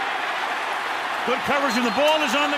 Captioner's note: cheering